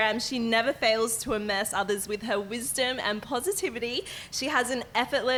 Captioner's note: none